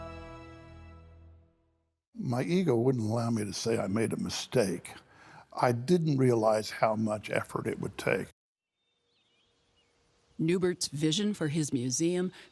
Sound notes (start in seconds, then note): 0.0 grand music; 9.0 birds chirping